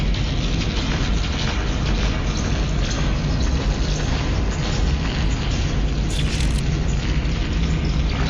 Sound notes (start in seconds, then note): 1.0 footsteps pattering; 1.0 tense music continues